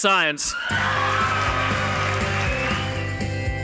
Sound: applause and music

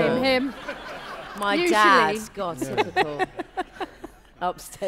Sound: laughter

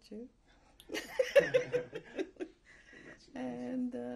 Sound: laughter

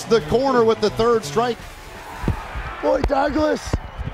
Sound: cheering

